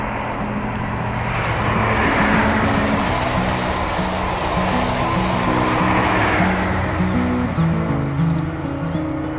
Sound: sound of Class 91 electric train passing

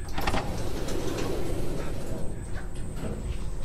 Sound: door opens

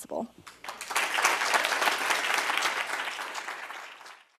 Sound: applause

